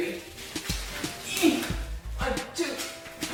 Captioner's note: heaving grunt